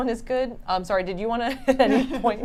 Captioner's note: laughs